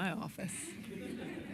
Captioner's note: laughter